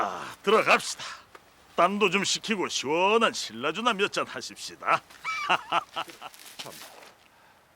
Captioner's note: laughing